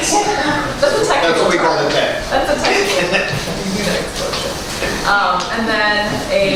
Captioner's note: laughter